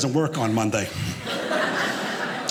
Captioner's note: audience laughing